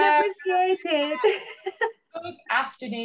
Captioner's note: chuckles